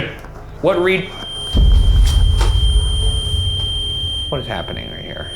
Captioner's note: REM-pod beeps